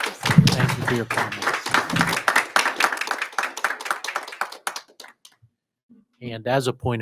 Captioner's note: audience applauding